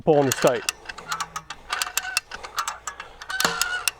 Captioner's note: gears clunking